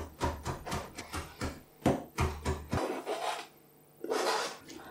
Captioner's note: chop chop chop; scrape